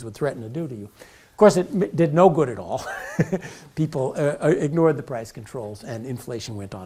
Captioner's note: laugh